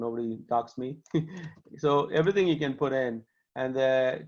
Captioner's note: laughter